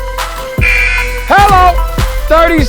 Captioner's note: buzzer blares